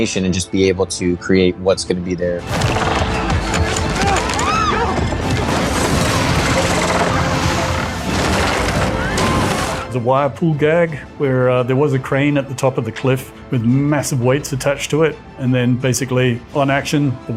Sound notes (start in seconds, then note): 3.0 dramatic music; 3.7 people screaming